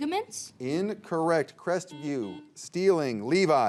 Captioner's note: buzzer beeps